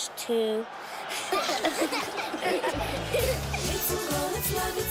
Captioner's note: laughing